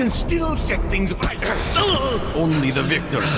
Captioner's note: grunt from Demichev as he hits the struggling Barisov